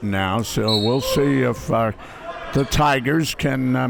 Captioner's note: whistle blows